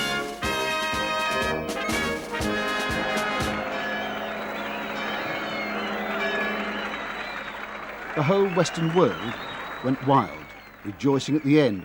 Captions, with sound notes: (bells chiming) (cheering) The whole Western world went wild, rejoicing at the end